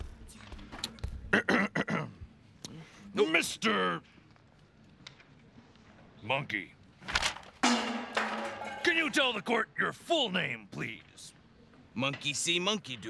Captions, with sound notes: ( clears throat ) Uh, Mister... Monkey... ( clangs ) Can you tell the court your full name, please?